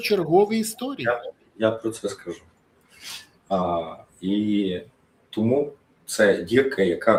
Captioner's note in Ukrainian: сопіння